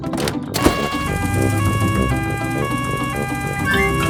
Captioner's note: siren wails